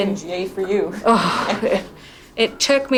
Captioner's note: heavy sigh